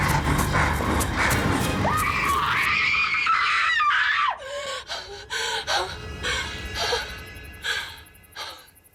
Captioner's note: screams